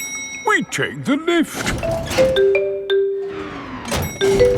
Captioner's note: elevator dings